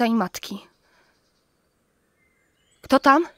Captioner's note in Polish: ćwierkanie ptaka, trzask gałęzi